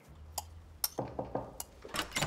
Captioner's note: hand knocking; utensil clanking; latch clicking